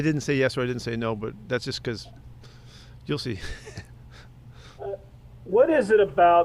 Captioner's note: laughs